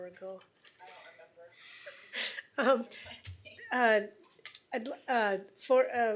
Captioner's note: laughter